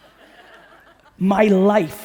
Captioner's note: audience laughing